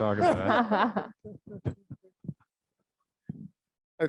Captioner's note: all laughs